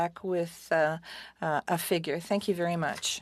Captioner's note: speaking French